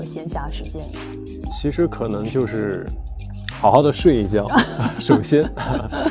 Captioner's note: hahahahhah